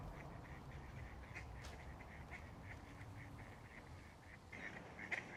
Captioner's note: ducks quack